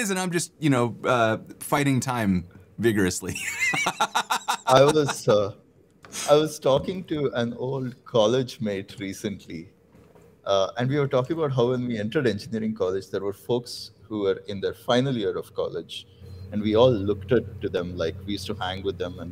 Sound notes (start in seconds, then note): 3.3 laughter; 6.0 audio cutting out